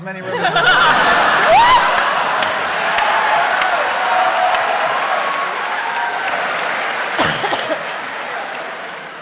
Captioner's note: cheering